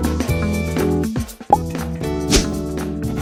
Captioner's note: pop; swish